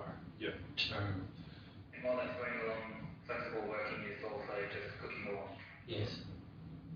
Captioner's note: audio distorts